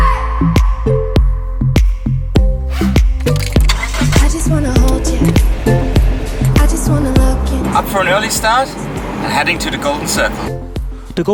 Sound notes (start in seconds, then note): 2.7 zippering; 3.3 engine starting